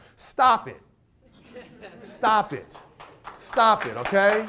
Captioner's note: audience claps